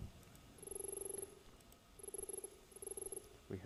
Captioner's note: text beeping